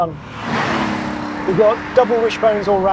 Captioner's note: engine revs